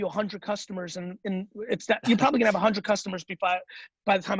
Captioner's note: stuttering